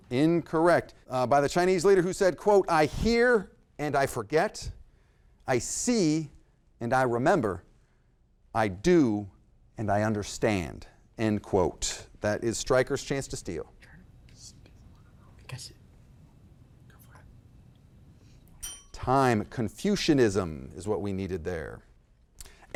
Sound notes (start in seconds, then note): 13.9 faintly speaking; 18.6 bell ringing